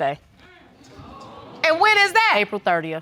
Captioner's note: audience exclaims